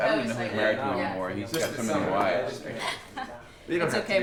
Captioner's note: people chatting